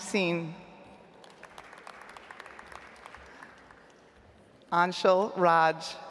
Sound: audience applauds

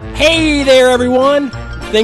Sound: voiceover

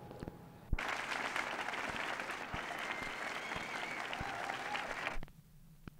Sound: applause

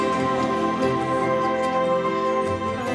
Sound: none

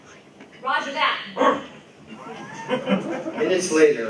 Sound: wolf barks

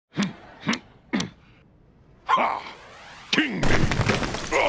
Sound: grunting

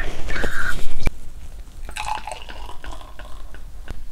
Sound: the microphone rubs against the costume and makes noise 🙇

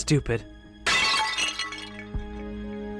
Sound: urn shattering

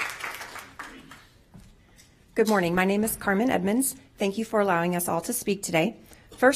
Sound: applause

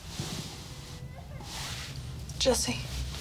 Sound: child crying

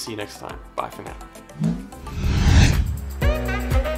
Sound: air whooshing; upbeat music

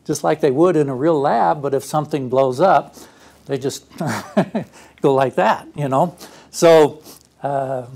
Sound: laugh

